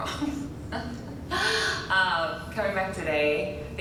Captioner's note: laughing